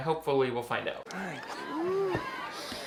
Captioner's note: Andrew and Viola sighing; people chattering indistinctly